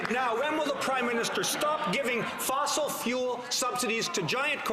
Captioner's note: some Applause